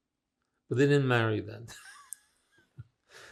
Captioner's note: laughing